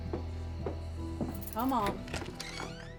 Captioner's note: footsteps; unlocks door